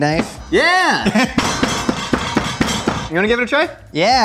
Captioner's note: knife hitting board